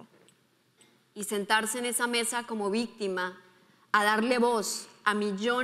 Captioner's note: speaking in foreign language